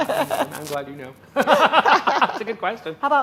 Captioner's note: laughing